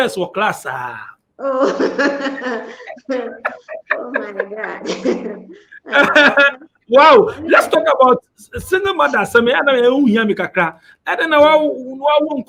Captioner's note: laughs